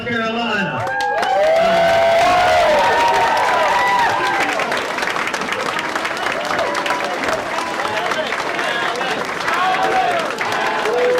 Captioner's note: applause